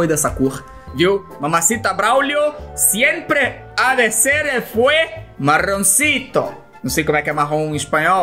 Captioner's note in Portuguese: em "espanhol"